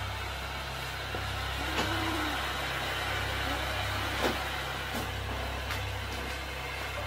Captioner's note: A moan?